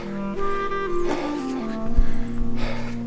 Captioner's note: heavy breathing